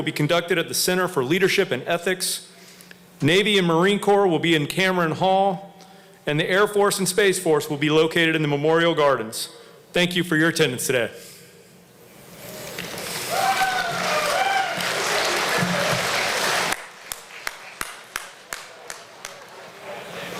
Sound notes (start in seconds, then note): 11.0 applause